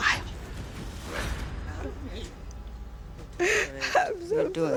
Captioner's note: sobbing